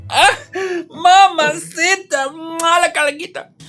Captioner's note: pain in spanish